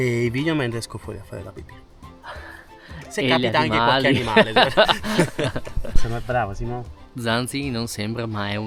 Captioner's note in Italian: risate